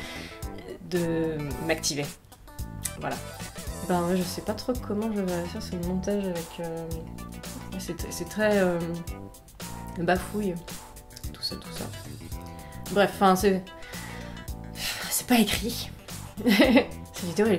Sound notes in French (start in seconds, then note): 14.8 Soupir; 16.4 rire de merde